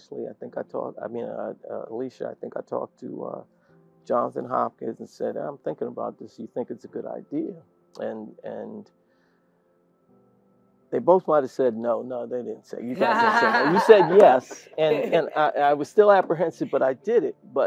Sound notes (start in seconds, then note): 12.9 laugh